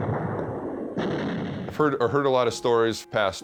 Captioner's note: shell exploding